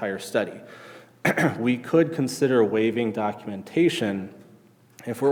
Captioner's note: clears throat